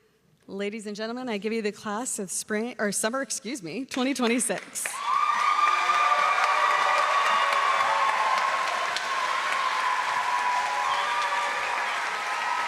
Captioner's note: cheering; applause